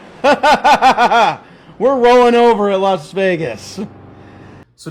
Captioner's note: laughing